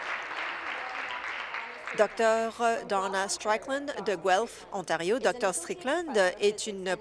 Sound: applause

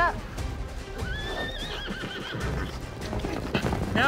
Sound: horse whinnies; galloping horses

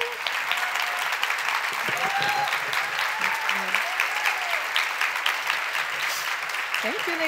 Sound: crowd cheers

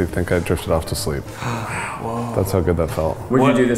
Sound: all gasp

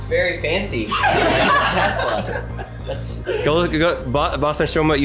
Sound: everyone laughs

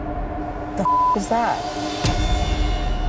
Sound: beep

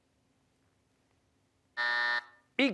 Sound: buzzer

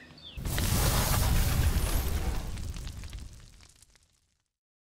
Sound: logo crackling

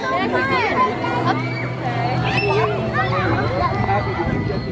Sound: children chattering

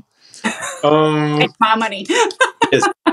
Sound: laugh

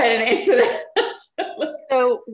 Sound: laughs

